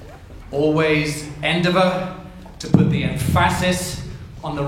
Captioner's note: speaks Spanish